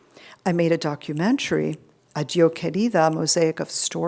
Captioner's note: speaking foreign language